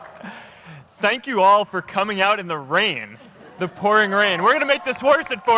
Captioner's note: applause